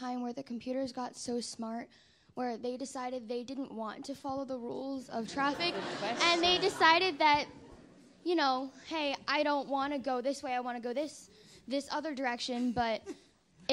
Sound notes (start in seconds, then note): 5.3 attendees laughing